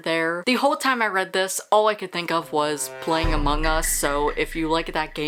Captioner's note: Among Us sound